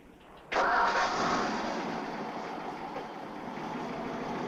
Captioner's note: car engine rumbling